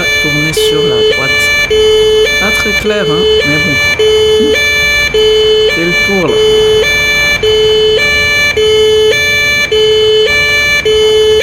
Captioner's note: laughs